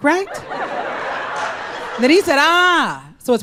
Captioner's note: crowd laughs